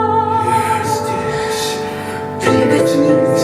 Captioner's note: whispers quietly